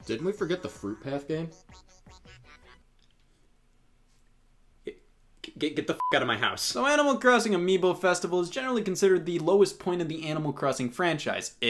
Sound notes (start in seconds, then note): 6.0 beeps